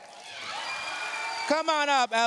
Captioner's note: cheers, applause